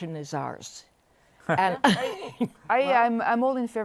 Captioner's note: laughter